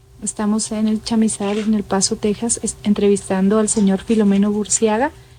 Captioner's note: speaking in foreign language